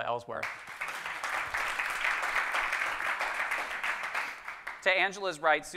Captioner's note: audience clapping